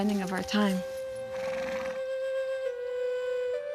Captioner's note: horse snorts